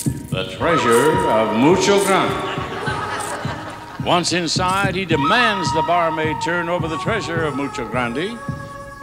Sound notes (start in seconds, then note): 2.8 audience laughs